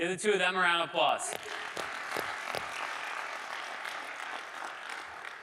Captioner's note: audience applauding